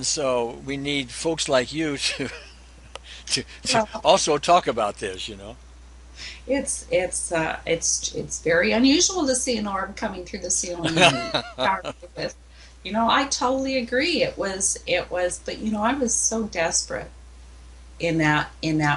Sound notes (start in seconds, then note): 1.8 laughs; 10.8 laughs